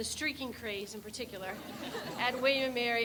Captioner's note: people laugh